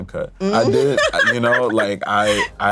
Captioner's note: laughs